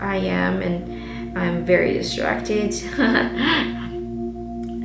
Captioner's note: laughs